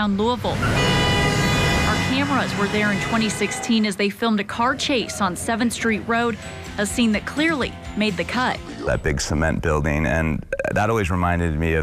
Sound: horn honking

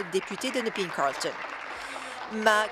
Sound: applause

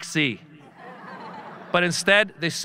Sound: audience laughing

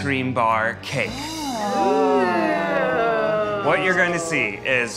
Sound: judges gasping

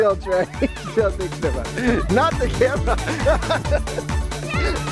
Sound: laughs

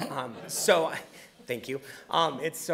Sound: audience chuckling

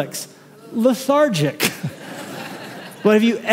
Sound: laughter

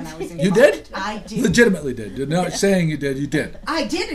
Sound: voiceover; voiceover

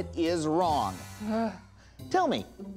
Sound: sighing

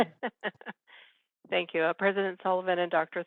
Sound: laughing

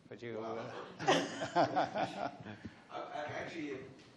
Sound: laughs

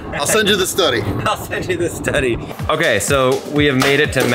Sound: laughing

